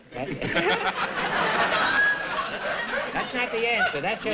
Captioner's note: laughter